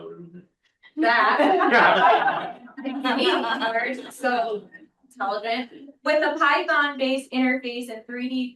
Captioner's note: laughs